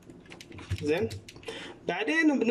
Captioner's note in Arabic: صوت لوحة المفاتيح